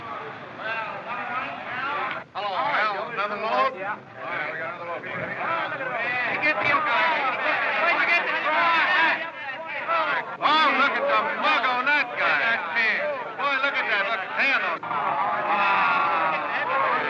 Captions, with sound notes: Another one? Hello, Al Another load? - Howdy, Joe. Yeah. - Got another load for you. [ Men Jeering ] - Oh, look at the mug on that guy. - Look at that pan! [ Jeering Continues ]